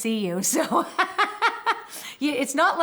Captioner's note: laughs